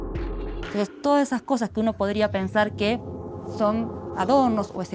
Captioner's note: speaking Spanish